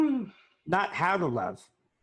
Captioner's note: sighing